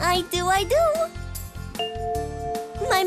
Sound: bell chimes

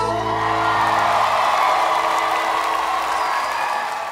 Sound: audience cheers

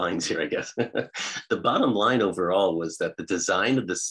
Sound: laughs

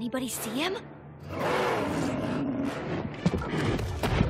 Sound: Cerberus growling

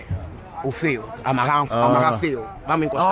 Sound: speaking Portuguese

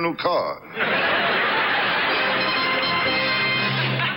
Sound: audience laughs; orchestra riffs

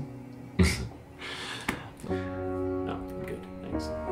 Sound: laughing

